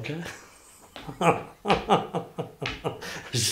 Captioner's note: laughs